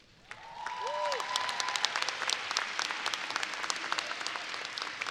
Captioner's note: audience applauding and cheering